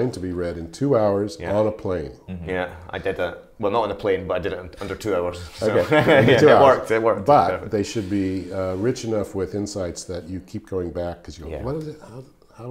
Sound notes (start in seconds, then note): 5.6 giggling